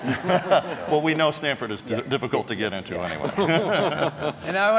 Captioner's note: laugh